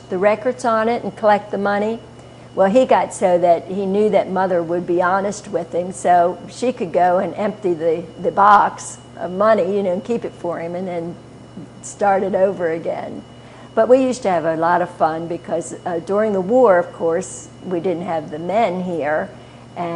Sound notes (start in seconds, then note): none